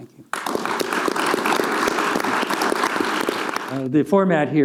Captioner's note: audience clapping